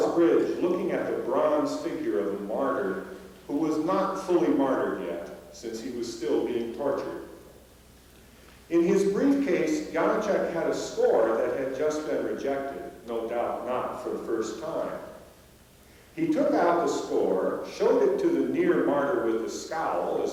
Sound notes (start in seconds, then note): none